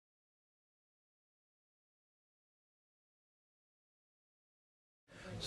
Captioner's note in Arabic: صمت